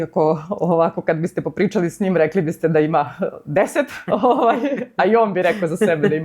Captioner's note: laughs